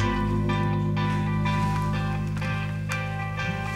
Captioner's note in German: Heitere Handyklingelmelodie